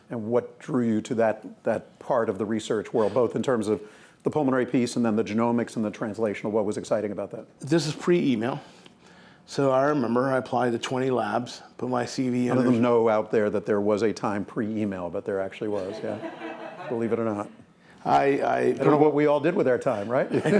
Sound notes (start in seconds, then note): 15.7 laughing